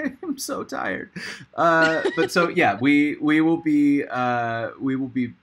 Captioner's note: laughs